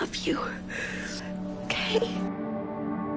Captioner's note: voiceover